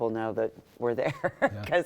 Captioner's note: laughter